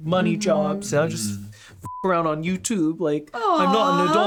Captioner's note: beep